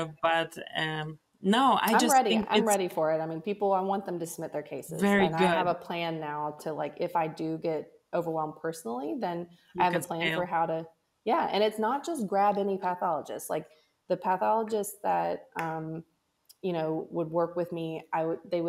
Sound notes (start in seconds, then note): 9.5 faintly speaks